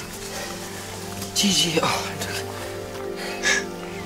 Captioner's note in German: Er seufzt erleichtert